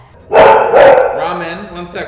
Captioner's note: barks